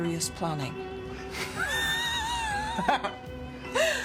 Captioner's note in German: lacht